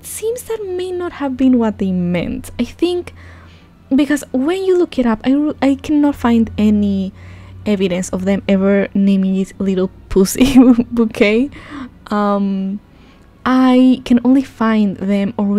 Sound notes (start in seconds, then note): 10.4 laughing